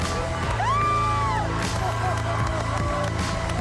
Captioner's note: cheering, applause; dramatic music continues